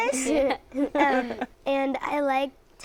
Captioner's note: laughter